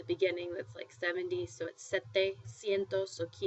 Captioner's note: spanish